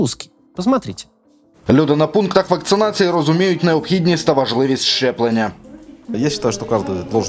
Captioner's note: speaks Ukrainian; speaks Russian